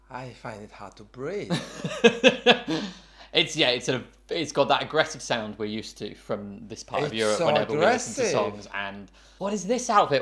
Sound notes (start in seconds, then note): 1.6 laughing